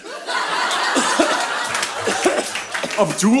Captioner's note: Death coughing